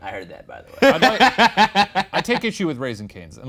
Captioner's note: laughs